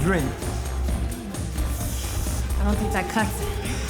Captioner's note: suck-teeth noise